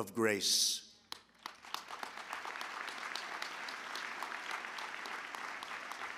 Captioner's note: applause